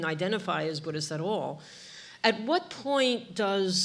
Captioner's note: none